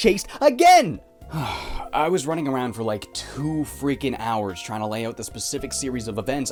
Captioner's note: sigh